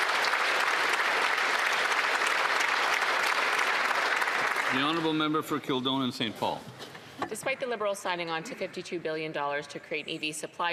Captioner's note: applause; some Applause